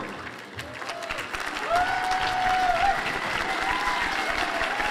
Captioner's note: applause and cheers